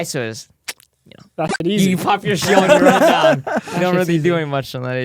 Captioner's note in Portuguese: risos